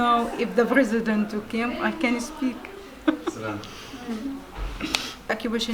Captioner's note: laugh